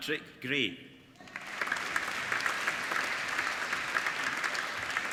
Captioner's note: applauding